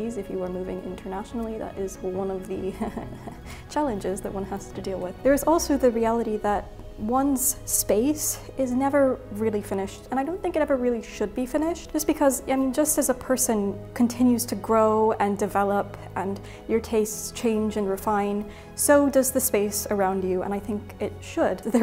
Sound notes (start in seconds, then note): 2.6 chuckles